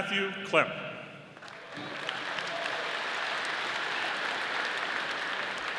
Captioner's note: audience applauding